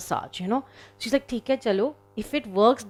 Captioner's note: speaking in foreign language